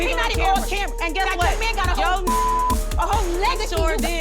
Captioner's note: beep